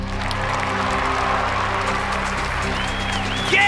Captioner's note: applause